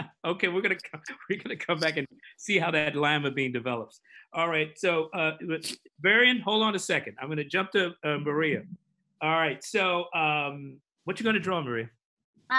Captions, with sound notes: - (laughs) Okay. We're going to come back and see how that Lima bean develops. All right. Varian hold on a second, I'm going to jump to Maria. All right. So what are you going to draw Maria?